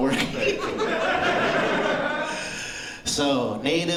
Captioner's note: laughter